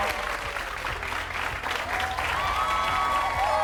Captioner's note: crowd applauding